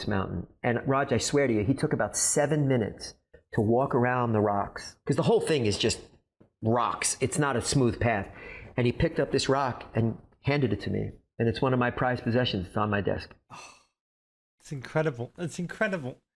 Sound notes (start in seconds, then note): 13.5 bennett exhales deeply